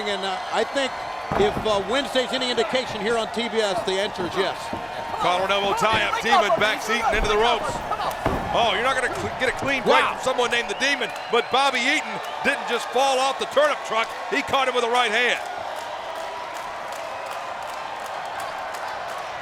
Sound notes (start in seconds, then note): 15.9 crowd cheering